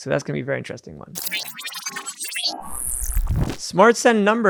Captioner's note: electronic beeping